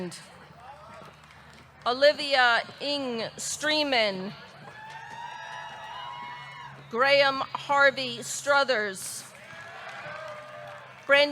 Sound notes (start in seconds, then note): 4.6 audience cheering; 9.3 audience clapping; 9.3 audience cheering